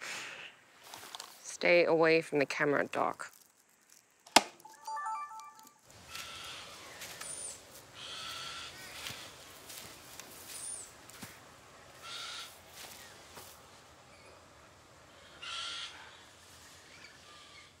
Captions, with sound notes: Stay away from the camera, Doc. [camera beeps]